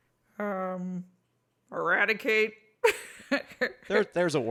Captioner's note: laughs